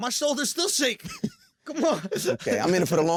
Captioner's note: laughs